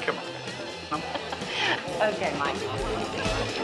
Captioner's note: chuckling